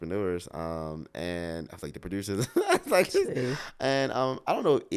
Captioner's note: laughs